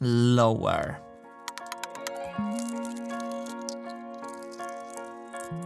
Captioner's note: sped-up plastic clicking